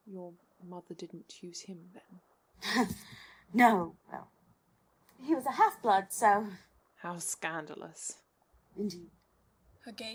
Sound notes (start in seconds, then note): 2.6 she snorts